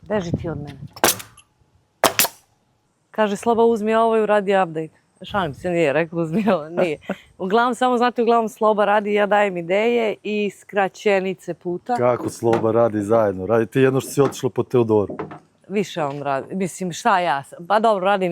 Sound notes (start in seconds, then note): 6.4 laughs